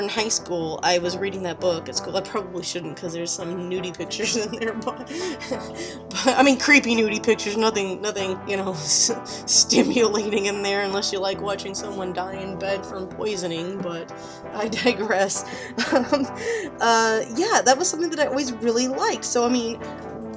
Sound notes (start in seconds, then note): 4.1 giggles